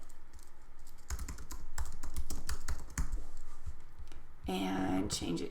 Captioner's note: keyboard typing